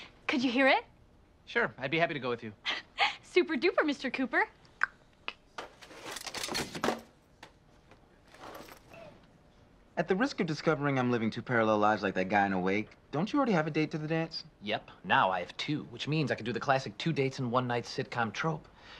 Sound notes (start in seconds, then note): 4.2 clicks tongue